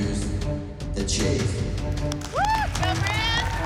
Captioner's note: applause